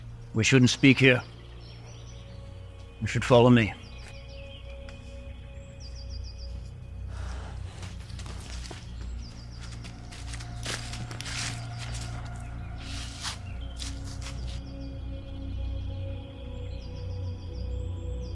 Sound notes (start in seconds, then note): 7.7 footsteps thumping; 14.9 tense foreboding music